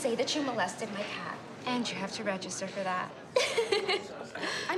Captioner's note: giggles